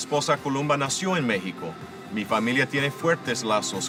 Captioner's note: speaking Spanish